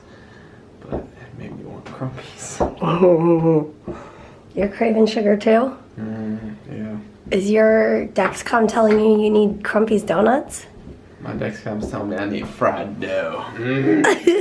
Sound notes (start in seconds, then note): 2.8 giggles